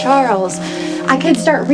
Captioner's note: doorbell rings